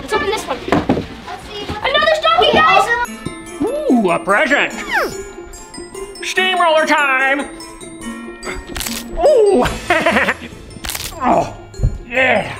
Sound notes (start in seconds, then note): 8.9 present crackling